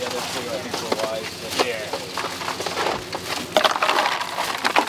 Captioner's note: loud clatters drown out speaker